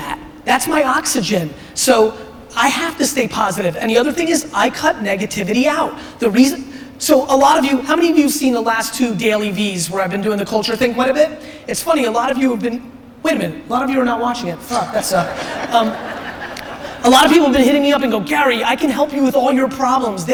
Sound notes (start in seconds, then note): 14.6 audience laughter